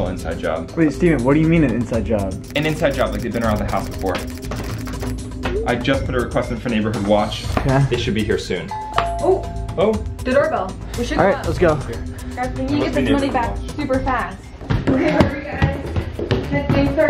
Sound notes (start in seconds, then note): 8.6 doorbell chimes